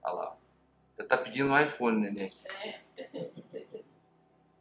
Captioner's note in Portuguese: risos